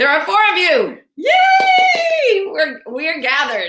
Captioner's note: cheers